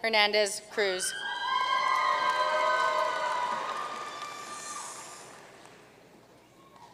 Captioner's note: audience cheering and applauding